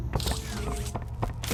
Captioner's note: footsteps